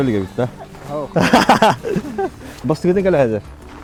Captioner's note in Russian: смех